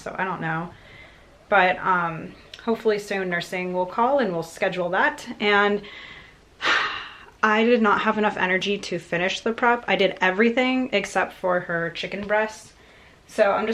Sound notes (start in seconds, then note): 6.6 sighs